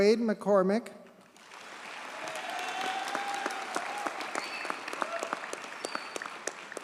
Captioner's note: audience cheers and applauds